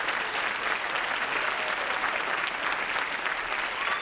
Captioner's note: applause